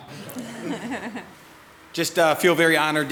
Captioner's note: audience laughs